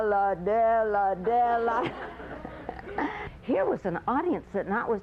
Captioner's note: laughter